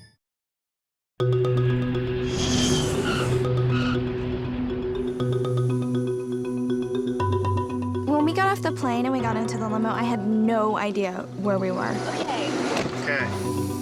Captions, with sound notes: (suspenseful music) (tires screeching) - When we got off the plane and we got into the limo, I had no idea where we were. Okay. - K.